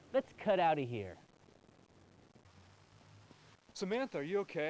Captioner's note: none